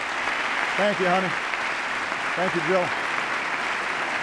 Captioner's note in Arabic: تصفيق